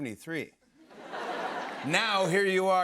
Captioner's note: laughter